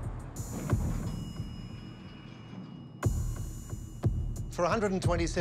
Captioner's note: suspenseful music; elevator beeping